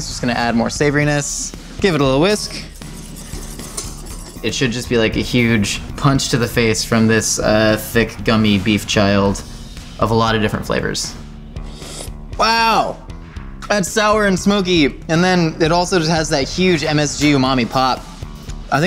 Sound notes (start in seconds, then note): 11.6 slurping